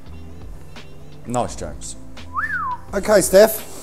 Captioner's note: whistles